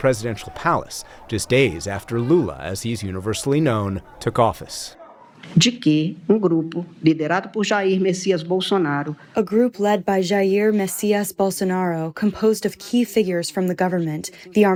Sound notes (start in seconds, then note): 9.0 through translator